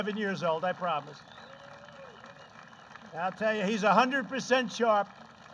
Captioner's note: applause